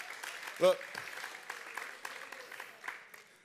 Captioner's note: applause